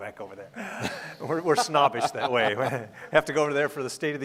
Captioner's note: laughing